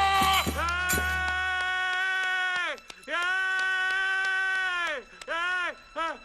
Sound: cheering

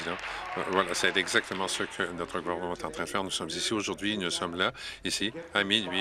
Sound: applause

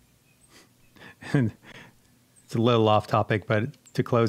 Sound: chuckles

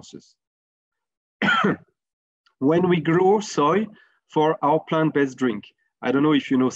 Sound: cough

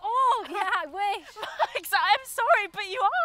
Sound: laughing

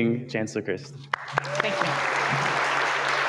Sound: audience clapping

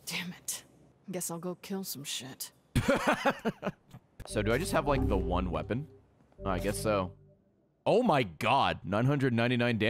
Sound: laughs

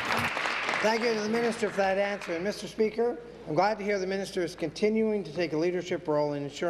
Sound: applause

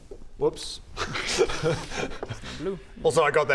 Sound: nervous laugh

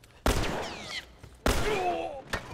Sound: bullet whizzes; Joel groans

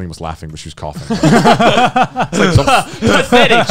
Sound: all laughing

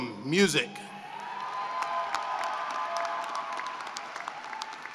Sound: cheering and applause

